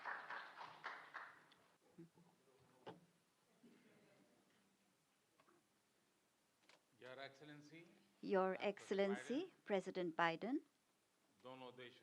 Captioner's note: applause